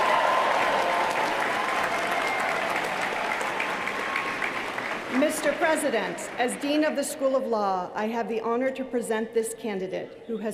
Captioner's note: applause